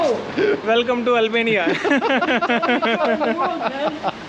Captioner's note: both laughs